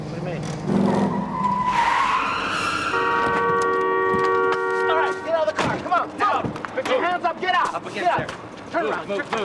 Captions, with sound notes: Hang on. Quick stop. What do you mean? (tires screeching) (horn blares) All right, get out of the car! Come on! Put your hands up! Get out! Come on, move! Up against there!